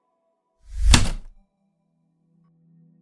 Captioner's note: heavy typewriter keystroke